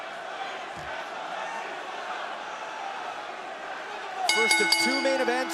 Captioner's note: bell ringing